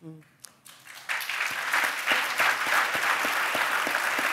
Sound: audience applauds

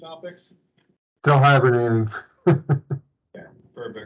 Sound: laughs

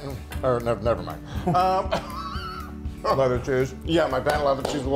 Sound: laugh

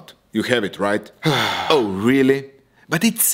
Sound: sigh

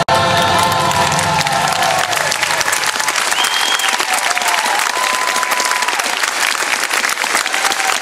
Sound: thunderous Applause

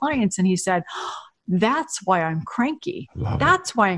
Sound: gasps

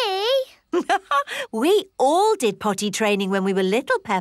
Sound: laughs

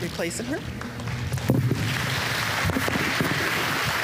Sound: applause

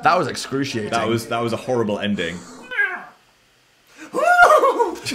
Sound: imitates horse neigh; meows; laughing

